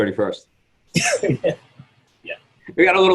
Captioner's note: laughs